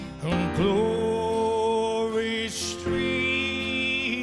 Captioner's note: none